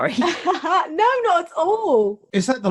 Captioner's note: laughs